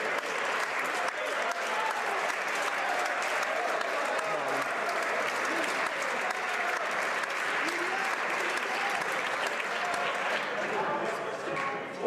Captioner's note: applause